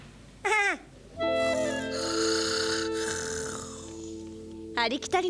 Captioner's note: snoring